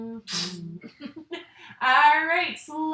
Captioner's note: laughing